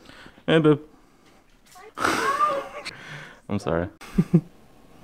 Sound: laughs

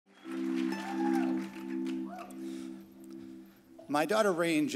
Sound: crowd cheering; strings music

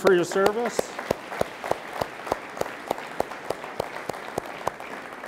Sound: all applauding

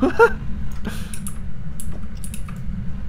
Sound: laughing

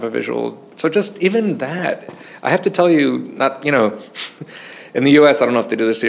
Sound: chuckles

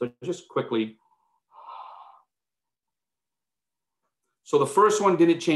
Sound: exhales deeply

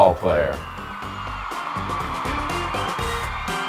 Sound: crowd cheering; upbeat funky music

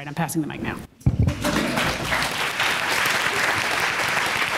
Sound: applause

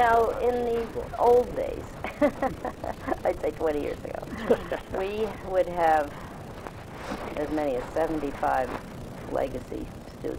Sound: laughs

